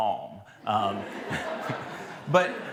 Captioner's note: laughter